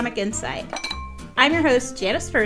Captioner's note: glass clinks